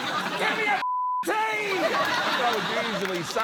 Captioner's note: laughter